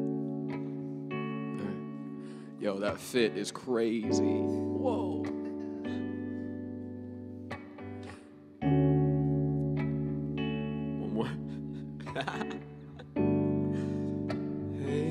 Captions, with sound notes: All right. Yo, that fit is crazy. (laughing) One more. (laughing)